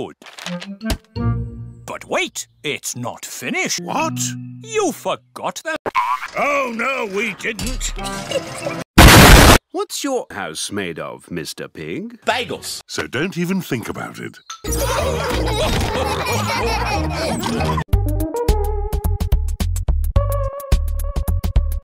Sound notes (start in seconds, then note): 9.0 explosion that is absolutely needed; 14.7 the sound of everyone having a seizure and dying